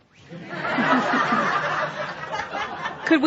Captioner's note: laughter